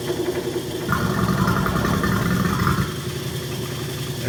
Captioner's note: pump gurgles